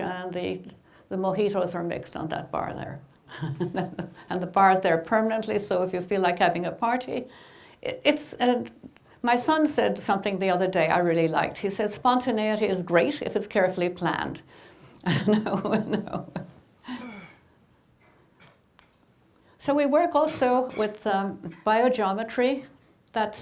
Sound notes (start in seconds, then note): 15.0 laughing